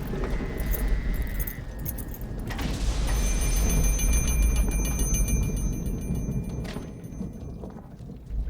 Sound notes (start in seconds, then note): 2.7 doorbell rings